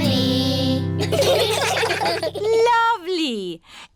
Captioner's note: children giggling